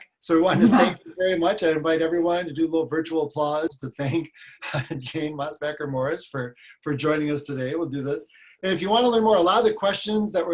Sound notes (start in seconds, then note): 0.5 laughs; 4.6 laughs